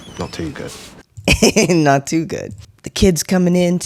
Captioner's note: laugh